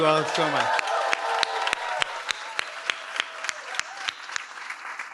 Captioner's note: applause